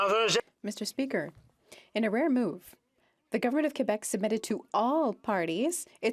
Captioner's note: speaking French